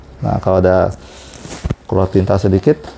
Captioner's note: tissue noise